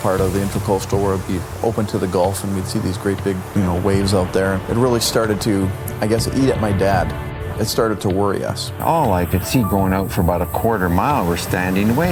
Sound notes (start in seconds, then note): 4.4 pounding surf